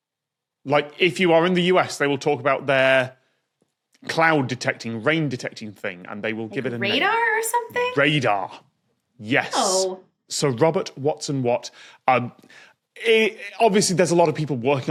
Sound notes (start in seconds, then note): none